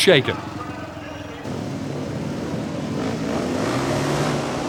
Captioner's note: engines rev